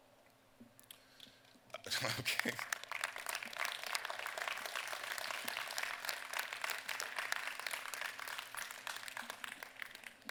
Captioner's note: applause